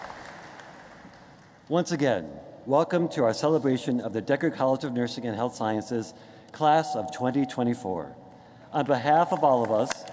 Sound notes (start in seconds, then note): 0.0 applause